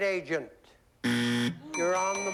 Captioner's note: buzzer